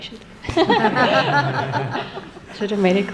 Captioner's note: laughter